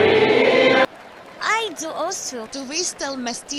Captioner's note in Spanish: hablando chamorro